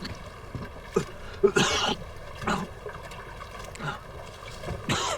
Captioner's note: coughing